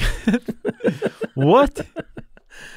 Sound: both chuckling

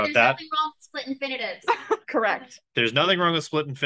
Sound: laughs

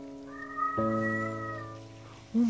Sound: meowing

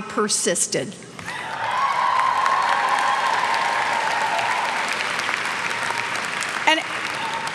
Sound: cheers and clapping

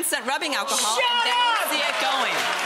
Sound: audience applauding

